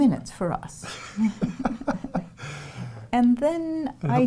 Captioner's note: laughing